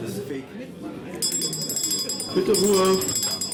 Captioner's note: bell